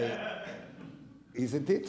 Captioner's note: audience laughing